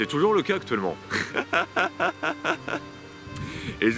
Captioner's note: laughs